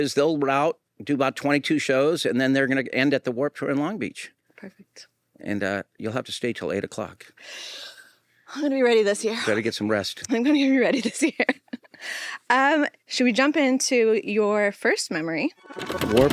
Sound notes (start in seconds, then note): 7.4 inhales deeply; 10.3 laughs